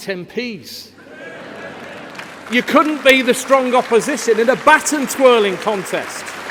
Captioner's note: laughter